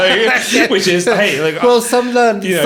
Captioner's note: laughing